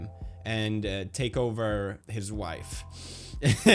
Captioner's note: light inhale